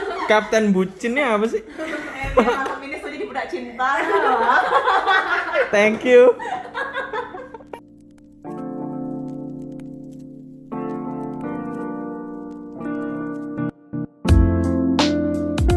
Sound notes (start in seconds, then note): 3.9 laughing